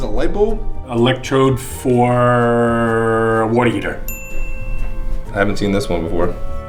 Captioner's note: ding